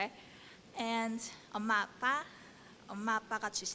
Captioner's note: speaking korean